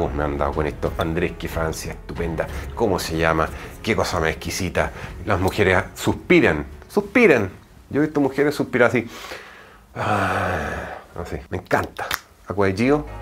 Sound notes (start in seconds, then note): 9.9 sigh